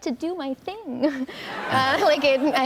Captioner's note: laughter